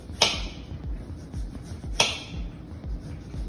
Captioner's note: knife tapping